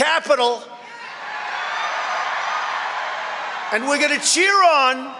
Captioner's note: crowd applauding